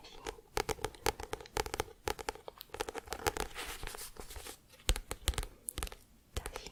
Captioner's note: tapping on book